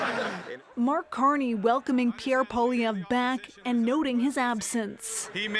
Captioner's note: laughter